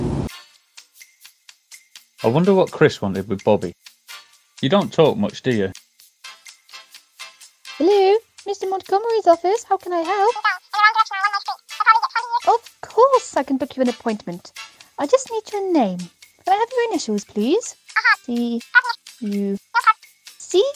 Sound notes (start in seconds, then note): 0.2 reception Music; 10.3 fast phone talking